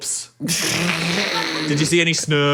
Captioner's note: laughs